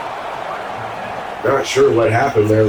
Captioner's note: crowd Noises